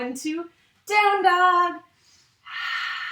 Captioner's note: exhales